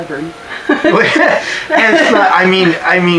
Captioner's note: laughter